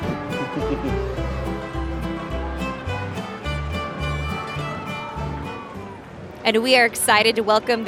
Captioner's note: chuckling; holiday music